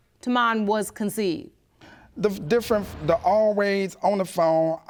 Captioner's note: stuttering